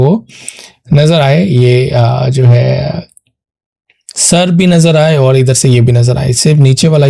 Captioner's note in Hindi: नाक से की जाने वाली आवाज़